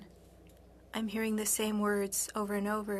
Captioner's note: speaking FRENCH